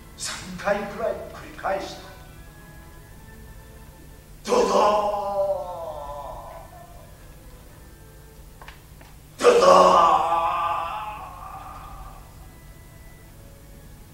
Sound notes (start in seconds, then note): 4.3 sound of the people falling